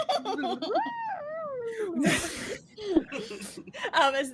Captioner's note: whining